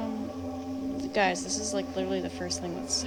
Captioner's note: woman's Voice